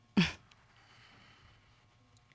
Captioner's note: chuckles